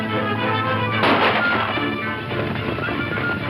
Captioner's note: gunshots